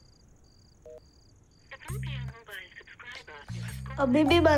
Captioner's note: programme playing on TV